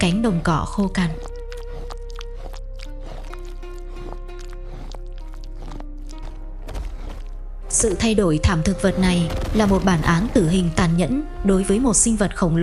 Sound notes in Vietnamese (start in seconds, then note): 5.1 khịt mũi